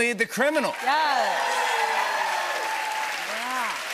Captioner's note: cheers and applause